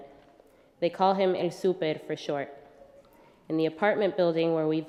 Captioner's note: speaking spanish